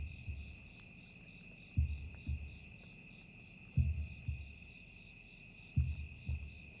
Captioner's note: crickets chirping; tense music